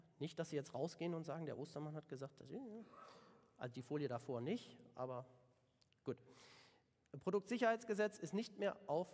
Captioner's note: German